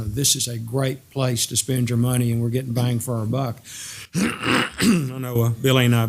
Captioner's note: cough